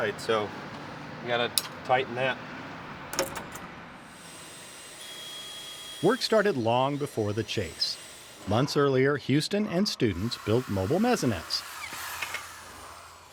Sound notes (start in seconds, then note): 4.0 tools whirring